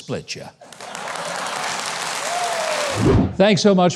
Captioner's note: audience clapping